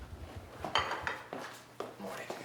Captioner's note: dishes clanking; footsteps descending